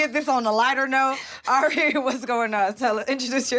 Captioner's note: chuckles